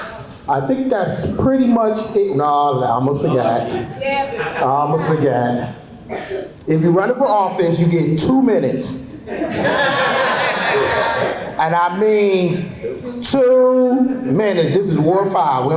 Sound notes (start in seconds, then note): 9.2 laughter